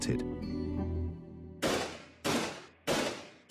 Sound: loud banging

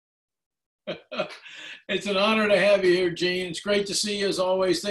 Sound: laughing

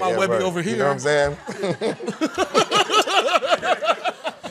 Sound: laughter

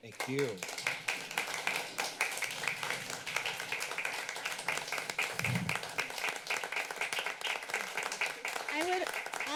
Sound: applause

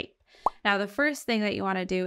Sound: overlay blooping

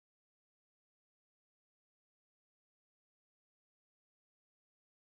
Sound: none

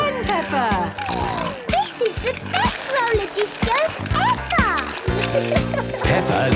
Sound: snorting

